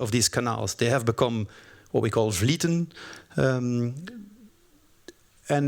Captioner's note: french